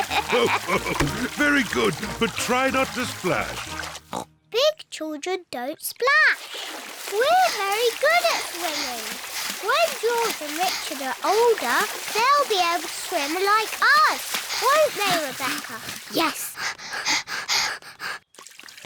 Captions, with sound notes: (LAUGHS) Very good, but try not to splash. (OINKS) Big children don't splash. We're very good at swimming. When George and Richard are older, they'll be able to swim like us, won't they, Rebecca? -Yes. -(BOTH PANTING)